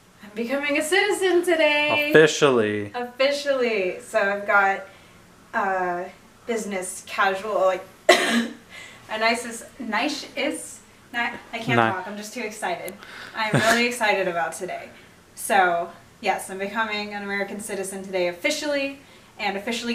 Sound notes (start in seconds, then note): 8.0 coughs